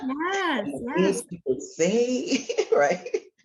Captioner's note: laughter